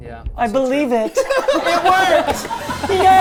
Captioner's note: everyone laughing